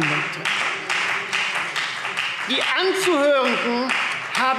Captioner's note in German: Beifall Freie Demokraten